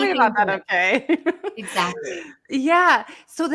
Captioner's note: laughs